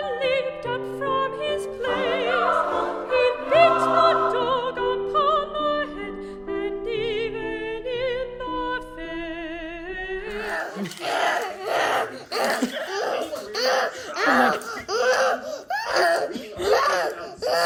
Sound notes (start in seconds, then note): 10.3 child grunting happily